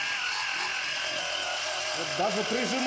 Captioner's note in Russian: крик